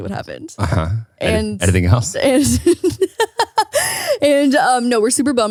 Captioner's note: laughs